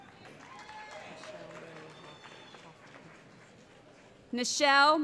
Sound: cheering

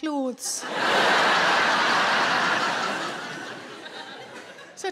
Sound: audience laughing

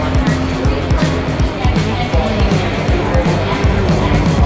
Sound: crowd talking

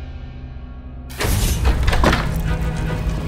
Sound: door opens

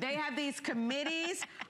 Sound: laughter

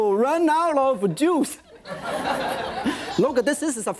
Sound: audience laughs

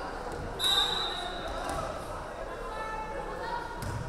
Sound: referee whistling

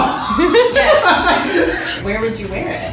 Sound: laughter

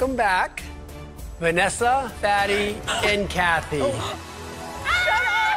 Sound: all gasp

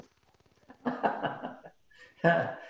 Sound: laughs

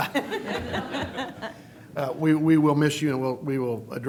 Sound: laughter

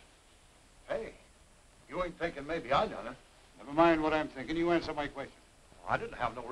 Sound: none

